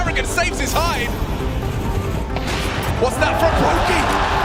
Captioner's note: explosion booming